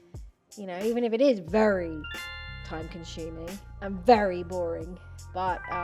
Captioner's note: notification sound